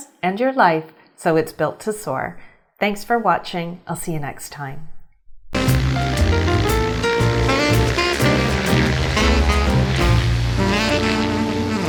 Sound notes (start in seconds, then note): 5.5 upbeat jazz music; 5.6 airplane engine buzzes